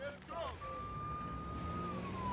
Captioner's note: police sirens wailing